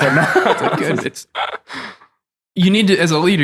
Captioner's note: all laughing